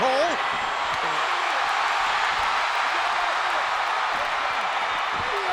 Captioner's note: audience cheering